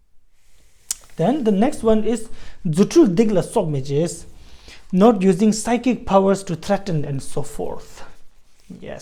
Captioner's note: tibetan